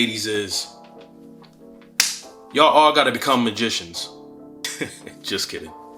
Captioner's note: laughs